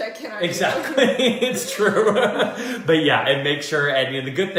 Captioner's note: laughter